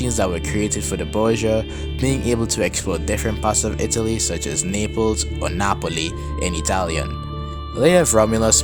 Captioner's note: in Italian